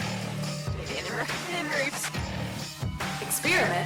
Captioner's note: electronic scramble